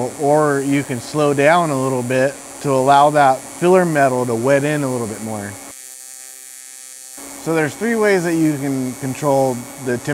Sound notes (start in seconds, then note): 5.2 electric welding machine humming